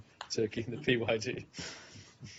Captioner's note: laughter